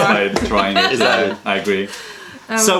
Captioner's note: laughter